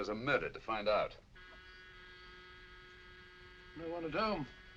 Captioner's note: door buzzer ringing